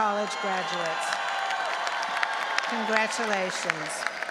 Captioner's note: audience applauding and cheering